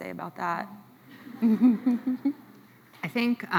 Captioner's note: chuckles